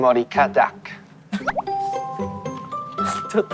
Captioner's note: laughing